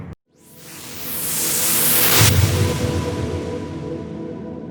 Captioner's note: whooshing